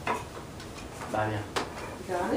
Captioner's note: student speaking in Spanish